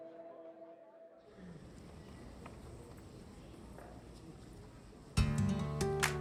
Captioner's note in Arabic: ثرثرة الجمهور; موسيقى نشطة